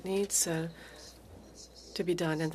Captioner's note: speaking French